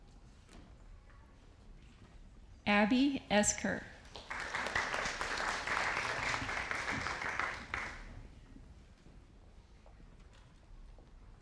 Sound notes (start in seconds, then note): 4.1 audience applauding